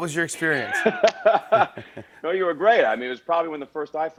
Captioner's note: laughs